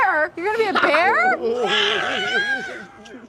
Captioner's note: growls